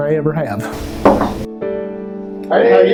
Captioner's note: knock on the door